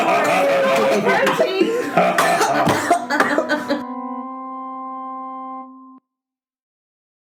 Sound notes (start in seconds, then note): 0.0 Maklaw and Ping Pong continue laughing; 2.9 Zyzzix coughs